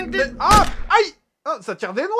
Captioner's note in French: bruits de dispute; coup de feu